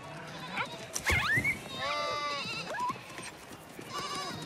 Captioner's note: whimpering